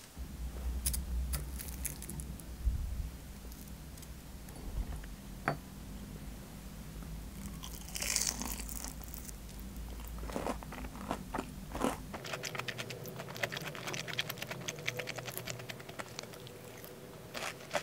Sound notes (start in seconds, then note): 8.3 crunchy